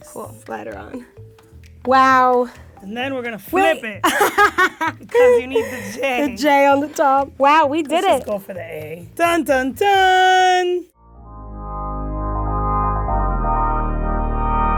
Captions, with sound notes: Glide 'er on. Wow! - And then we're gonna flip it, 'cause you need the J. - The J on the top. Wow, we did it! - Let's just go for the A. (imitating shocking music) Dun dun dun! (electronic music)